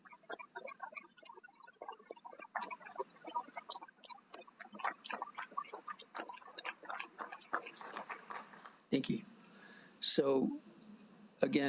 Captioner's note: applause